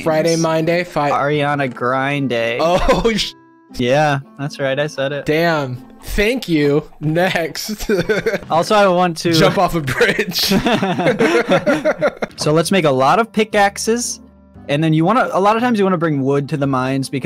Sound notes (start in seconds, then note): 6.8 laughs; 9.3 both laughing